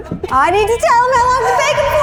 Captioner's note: laughing